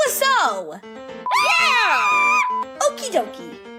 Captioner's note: cheering